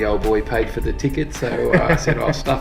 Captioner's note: laughs